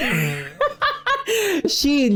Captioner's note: laughing